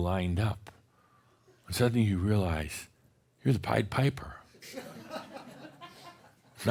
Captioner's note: more chuckles